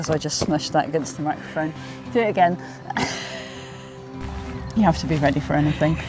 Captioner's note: giggles